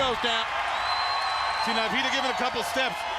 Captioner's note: crowd cheering